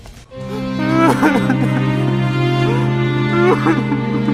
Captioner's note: crying and sad music